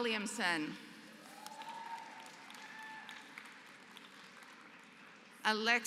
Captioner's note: applause